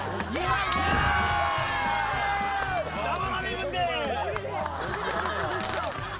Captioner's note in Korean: 생존자들의 환호성